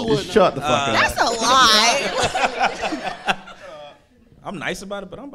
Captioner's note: audience laughing